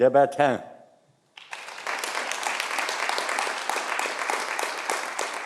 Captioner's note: audience applauding